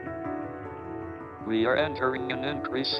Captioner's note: speech synthesizer